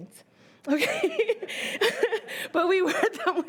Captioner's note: laughing